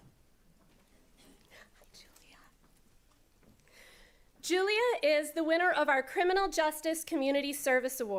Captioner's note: quietly